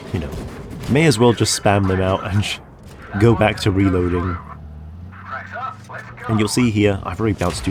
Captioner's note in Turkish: Gülüyor